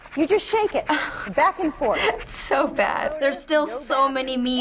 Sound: laughs

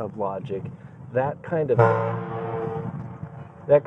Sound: horn blowing

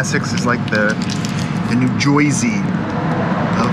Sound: American accent

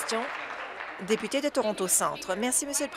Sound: applause

